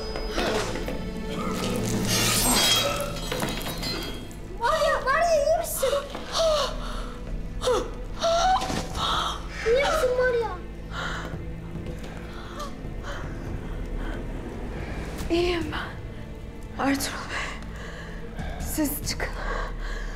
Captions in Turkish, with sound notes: (İnleme sesi) Marya! Marya, iyi misin? (İnleme sesi) İyi misin Marya? (İnleme sesi) İyiyim ben. Ertuğrul Bey... ...siz çıkın.